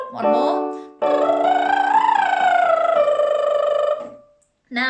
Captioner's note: lip trill scale